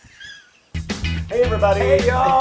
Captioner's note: laugh